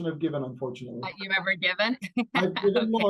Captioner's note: laughs